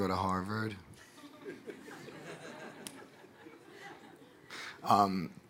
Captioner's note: audience laughing